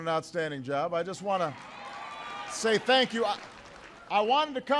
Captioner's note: applause